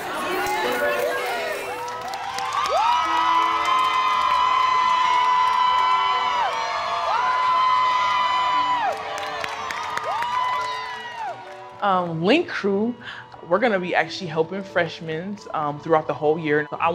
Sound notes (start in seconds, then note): 2.9 students cheering